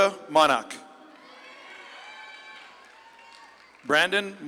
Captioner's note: audience claps and cheers